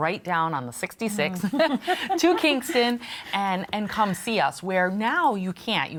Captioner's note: laughs